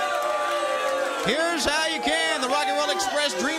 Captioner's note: crowd chatter